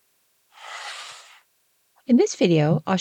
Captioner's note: sound effect